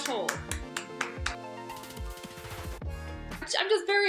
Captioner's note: clapping and upbeat music